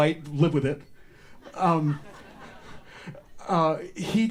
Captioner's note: audience laughter